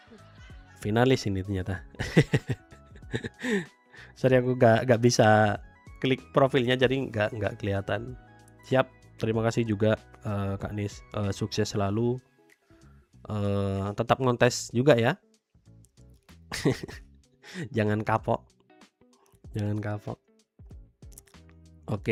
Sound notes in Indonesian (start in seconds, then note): 3.1 tertawa